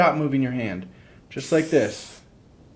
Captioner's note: spritzing